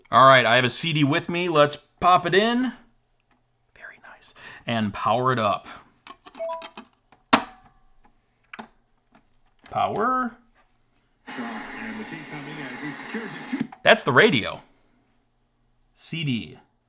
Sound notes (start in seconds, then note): 6.4 announcement beeping; 11.2 static, radio host speaking indistinctly